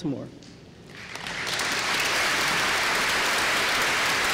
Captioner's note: applause